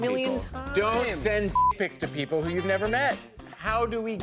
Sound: beep

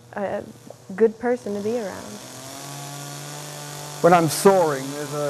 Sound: chainsaw wurring

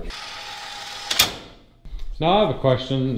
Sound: gate whirring; lock closes

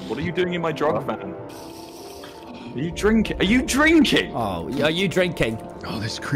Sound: sound of drinking

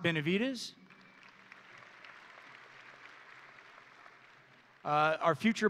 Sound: audience and graduates applauding

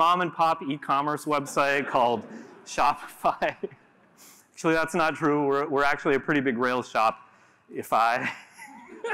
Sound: giggle

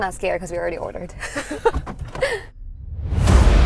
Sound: giggling; dramatic intense music

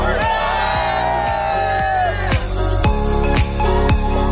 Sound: all cheering

